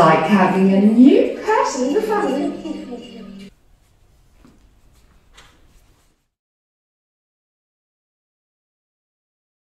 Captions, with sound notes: IT'S LIKE HAVING A NEW PERSON IN THE FAMILY! [TOTAL SILENCE]